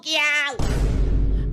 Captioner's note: explosion